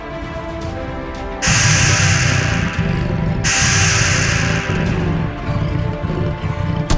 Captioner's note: beast whirring; ground rumbling